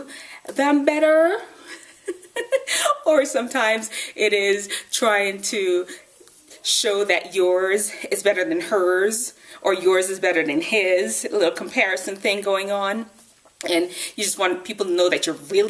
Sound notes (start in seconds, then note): 1.8 laughs